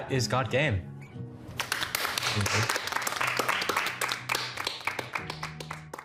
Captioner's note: applauding